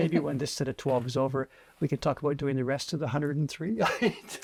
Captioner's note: laughs